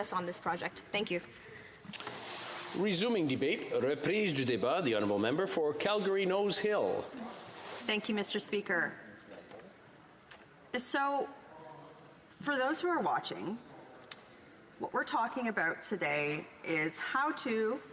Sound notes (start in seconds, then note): none